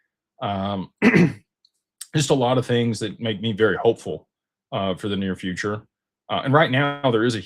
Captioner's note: clears throat